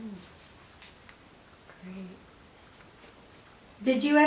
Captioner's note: silence; woman whispers "Great"